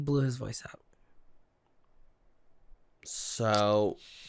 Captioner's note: silence